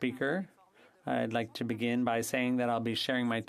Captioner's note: speaking French